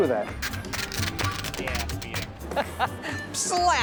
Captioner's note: paper crackles; chuckles